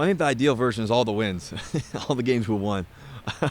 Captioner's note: laughing